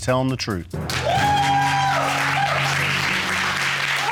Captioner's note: audience cheering